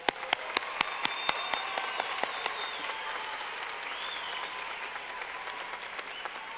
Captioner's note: clapping